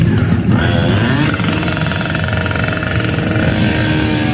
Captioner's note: motor whirs